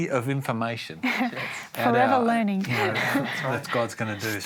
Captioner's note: laughs